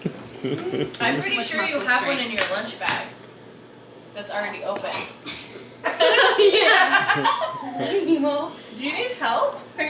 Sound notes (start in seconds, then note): 5.9 loud laugh